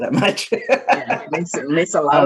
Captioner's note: laughter